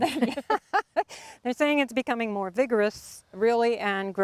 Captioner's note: laughs